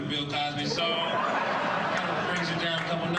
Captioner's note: audience laughing